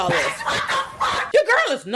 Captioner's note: laughing